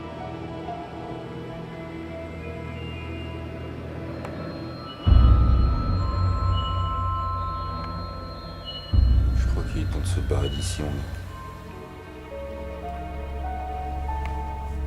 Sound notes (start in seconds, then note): 5.0 sinister music; 8.9 speaks French; 12.2 somber music